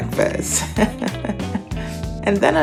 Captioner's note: laughs